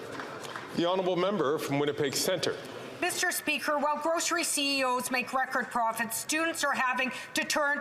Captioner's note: some Applause